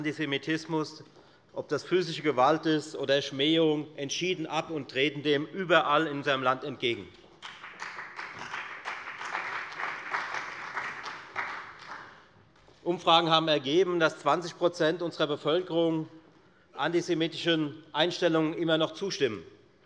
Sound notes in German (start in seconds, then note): 7.3 Beifall bei der FDP